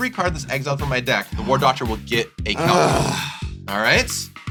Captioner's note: inhales deeply